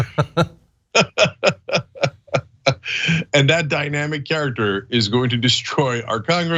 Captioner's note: laugh